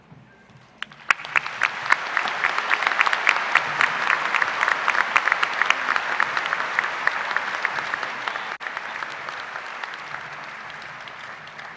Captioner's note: applause